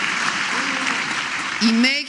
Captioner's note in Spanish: aplausos